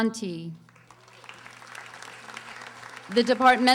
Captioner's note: audience applauding